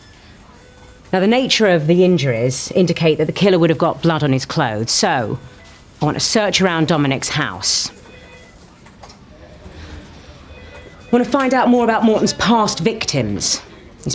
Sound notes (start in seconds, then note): 8.5 phone ringing; 9.1 people chattering